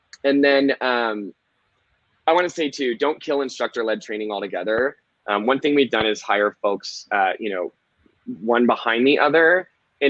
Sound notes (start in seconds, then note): none